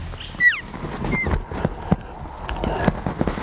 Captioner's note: cow mew